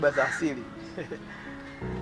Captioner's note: laughs